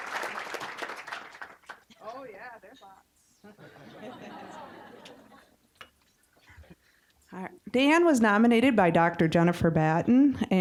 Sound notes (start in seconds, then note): 0.0 applause; 3.4 audience laughing